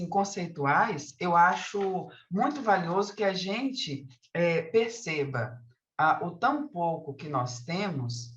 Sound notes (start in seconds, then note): 1.2 continues speaking in Portuguese